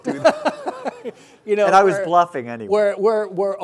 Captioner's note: laughing